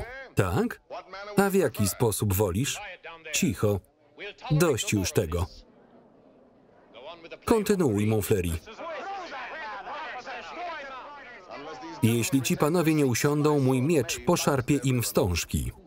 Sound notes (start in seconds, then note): 8.8 shouting criticisms